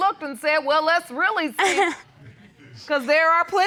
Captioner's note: chuckles